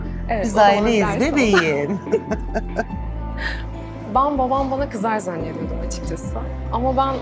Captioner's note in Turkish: kahkaha